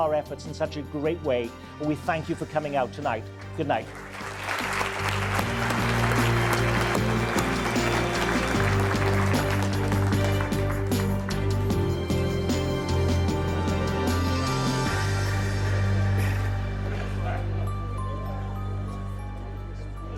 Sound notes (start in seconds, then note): 3.8 audience applause; 6.9 dramatic music